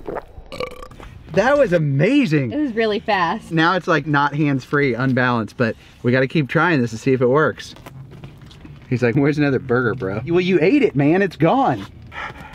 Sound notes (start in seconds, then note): 0.4 burping; 12.0 panting